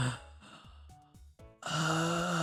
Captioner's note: gasps